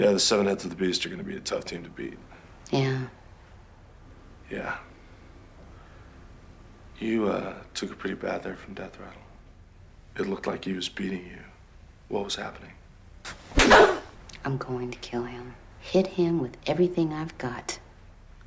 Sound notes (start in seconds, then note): 13.2 gasping